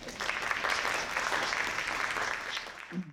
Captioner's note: applause